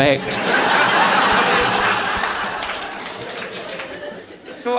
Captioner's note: audience laughing